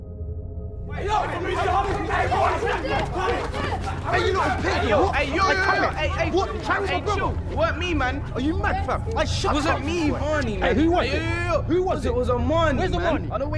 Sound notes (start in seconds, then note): 1.3 boys shouting